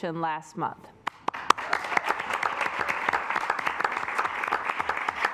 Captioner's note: assembly clapping